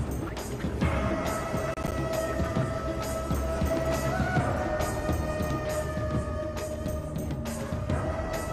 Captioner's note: drums But Like Too But Windy; OOoooooOOoooooOoOooooOh!